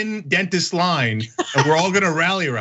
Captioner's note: laugh